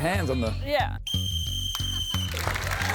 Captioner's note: blows whistle; cheering, applause